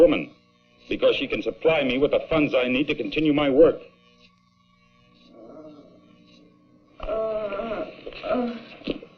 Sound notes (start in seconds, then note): 7.0 bea moans